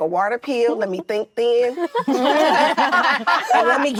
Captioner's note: actresses laughing